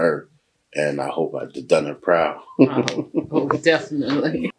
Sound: chuckles

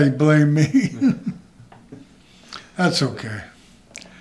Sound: laughs

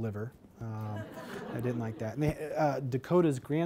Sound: laughter

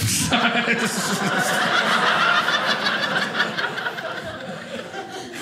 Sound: audience laughing

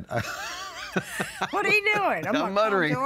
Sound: laughs

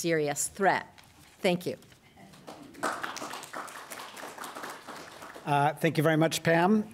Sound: applause

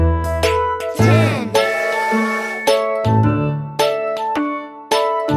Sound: train toots

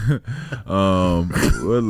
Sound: laughs

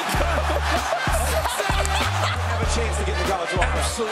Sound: audience laughing; audience cheers

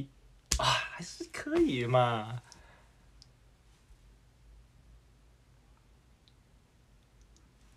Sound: back to Mandarin

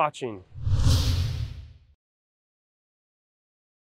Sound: whooshing

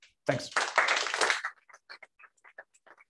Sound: applause

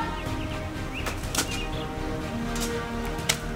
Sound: splash

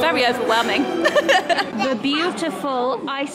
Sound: laughing

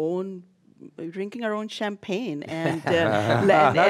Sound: laughs

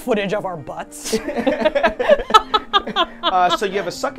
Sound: laughing

